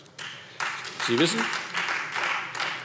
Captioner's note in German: Beifall Freie Demokraten